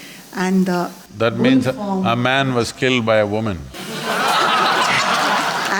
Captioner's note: laughter